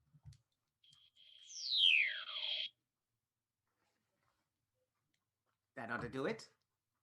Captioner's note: laser sound